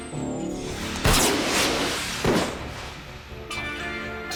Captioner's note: gunshot